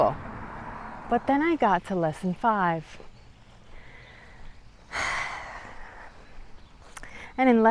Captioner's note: sighhhh